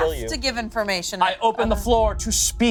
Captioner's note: beep